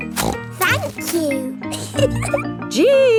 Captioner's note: snorts; giggles